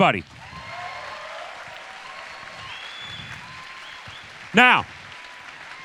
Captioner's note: audience applause and cheers